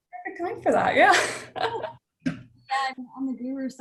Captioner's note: laughs